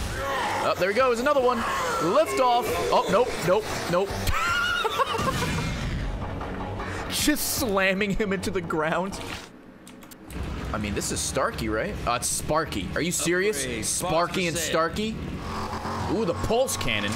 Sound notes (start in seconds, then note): 4.2 laughs